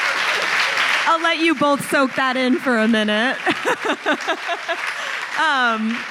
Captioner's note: laughs; laughs